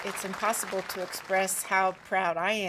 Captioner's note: applause